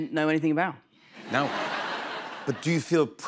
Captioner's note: laughter